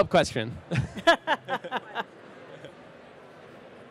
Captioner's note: they laugh